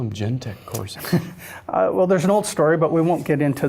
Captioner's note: chuckles